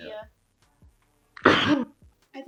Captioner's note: sneezes